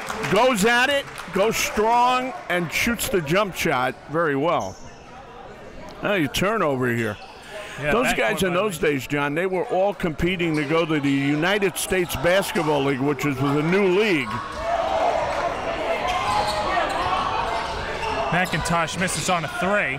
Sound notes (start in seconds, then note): 14.8 crowd cheering